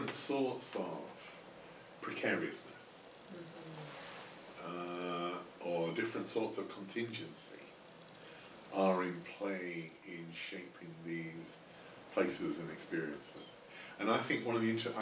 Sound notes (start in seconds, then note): none